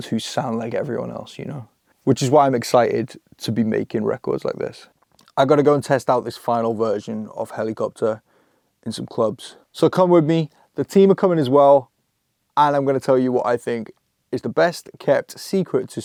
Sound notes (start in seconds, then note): none